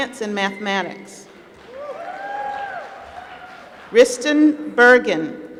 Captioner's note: applause